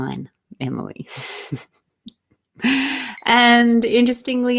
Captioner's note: laughs